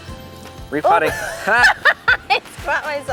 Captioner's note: laughs loudly